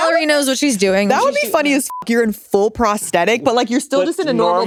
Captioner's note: beep